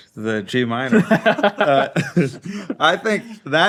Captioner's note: group laughing